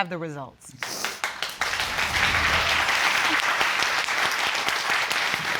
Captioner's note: all applauding